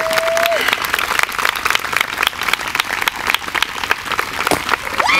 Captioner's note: guests cheering